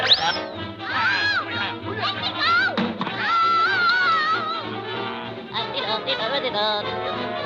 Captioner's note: Popeye muttering; vizier chattering; Popeye humming